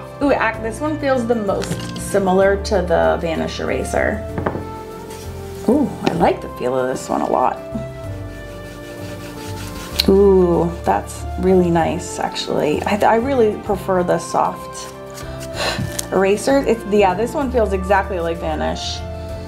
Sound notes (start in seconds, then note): 8.2 eraser rubbing; 15.2 blows